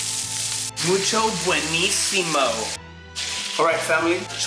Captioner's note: speaking in spanish